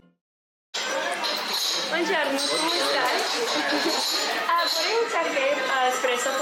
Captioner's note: speaking foreign language